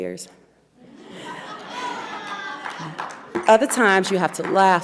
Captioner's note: audience laughs; audience member applauds